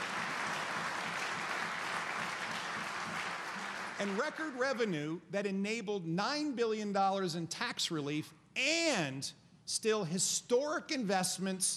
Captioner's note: applause